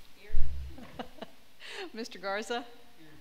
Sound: laughing

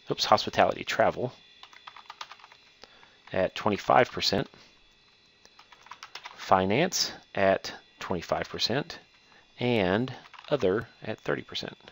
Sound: typing; typing

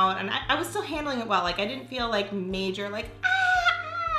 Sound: yells

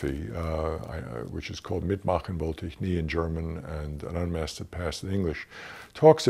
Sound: german

